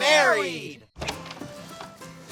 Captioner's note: door Opening